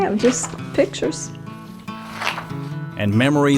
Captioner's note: pages shuffling